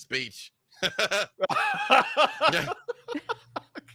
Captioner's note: laughing